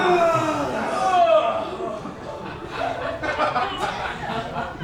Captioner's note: men groaning